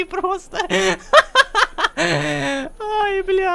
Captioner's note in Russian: Кха-ха-ха-ха! Кх-х